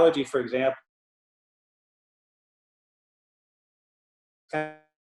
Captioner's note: audio cuts out